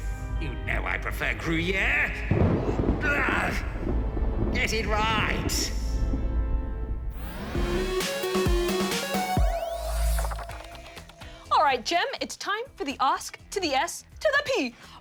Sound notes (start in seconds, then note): 2.2 thunder rumbles